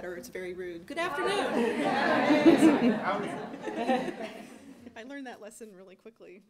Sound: crowd responds and laughs

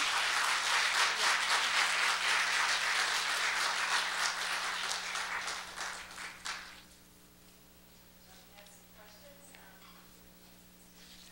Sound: applause

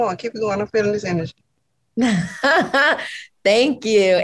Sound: chuckles softly

